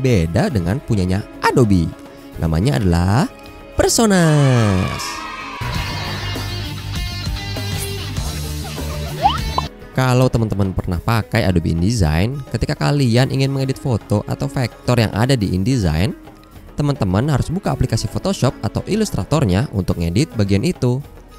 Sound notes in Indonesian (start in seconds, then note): 4.1 suara kegembiraan